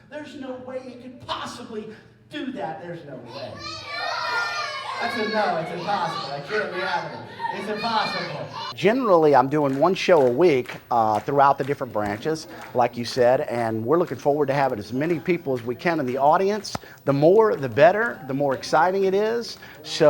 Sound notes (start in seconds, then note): 3.8 audience yelling